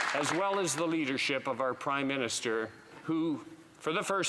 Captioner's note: some Applause